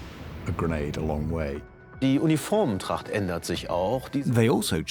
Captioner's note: speaking German